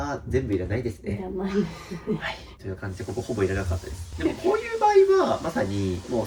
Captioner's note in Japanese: 笑い